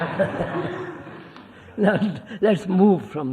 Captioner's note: laughter